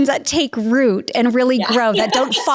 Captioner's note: laughs